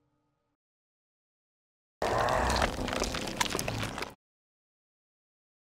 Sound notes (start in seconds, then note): 2.0 snarling